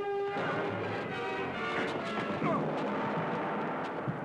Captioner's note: gong banging